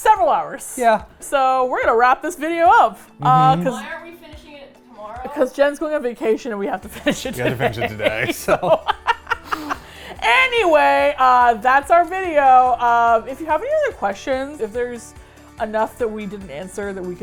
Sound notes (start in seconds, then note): 7.0 laughs; 9.9 laugh